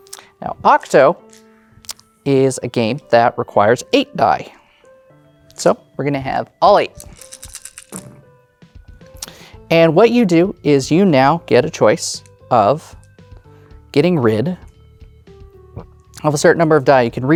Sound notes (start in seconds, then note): 7.0 dice rattling; 7.0 dice rolling